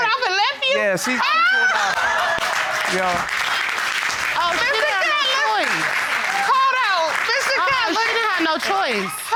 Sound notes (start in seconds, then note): 1.1 laughs; 3.2 audience applauding